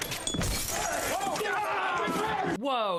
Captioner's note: glass shattering